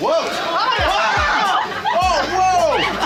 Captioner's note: screaming